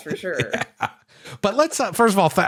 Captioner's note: laughter